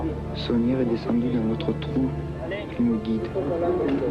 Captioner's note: S. Klau in French